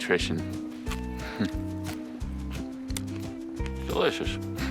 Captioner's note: chuckling